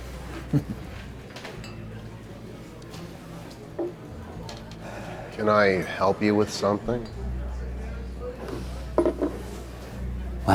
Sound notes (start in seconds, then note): 0.4 Kieran chuckles; 1.6 chatter softly droning; 1.6 soft music in background